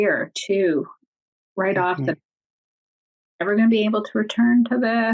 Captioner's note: none